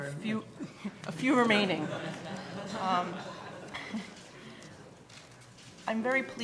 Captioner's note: laughing